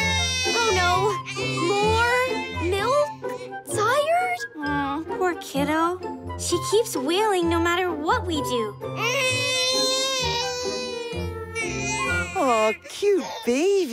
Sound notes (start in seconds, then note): 9.0 cries